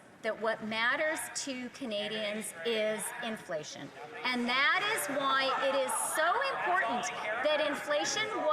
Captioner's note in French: voix de l'interprète